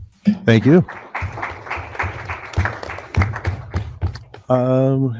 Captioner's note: audience applauding